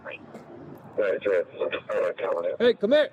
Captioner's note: radio chatter